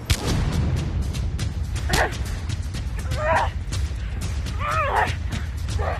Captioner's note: grunting